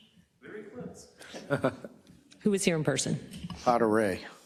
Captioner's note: laugh